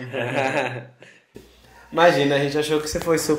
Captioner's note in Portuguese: Risos